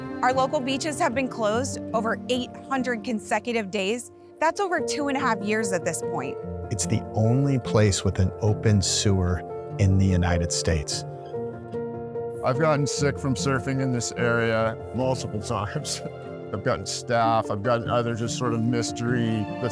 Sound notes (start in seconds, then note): 11.9 dramatic music continues; 15.0 laughing